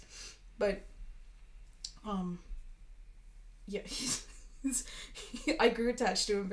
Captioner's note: laughing